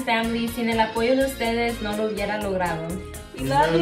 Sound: speaks in foreign language

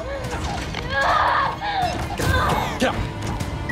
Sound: screaming

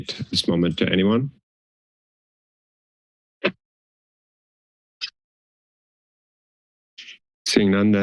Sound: silence

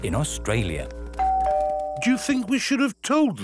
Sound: doorbell rings

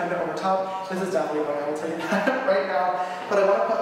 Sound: laughs

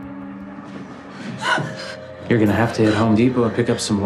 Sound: gasps

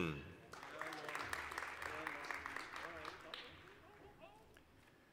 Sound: applause

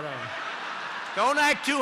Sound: laughter

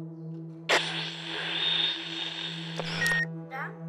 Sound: radio on

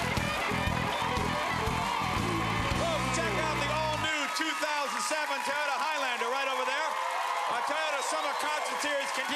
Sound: cheers and applause

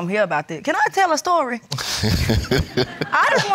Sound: laughs

